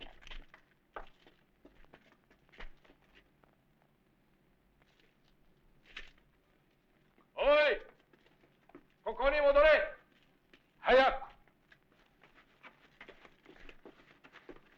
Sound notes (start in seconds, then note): 7.3 non-english speech